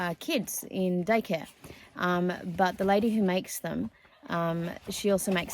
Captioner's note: rustling continues